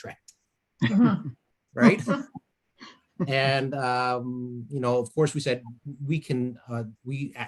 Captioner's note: laughter